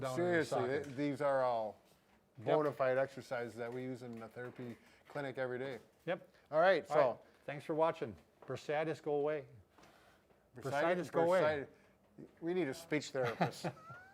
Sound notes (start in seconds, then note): 13.2 laughs